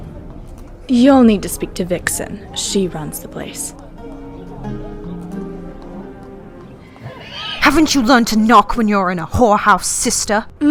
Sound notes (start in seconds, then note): 7.0 neigh